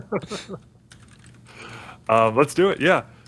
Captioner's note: laughter